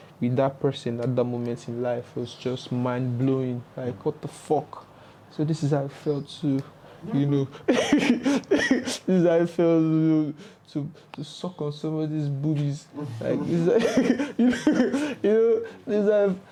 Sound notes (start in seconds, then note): 7.5 laughs; 13.2 laughs & giggles